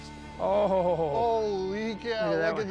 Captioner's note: laughing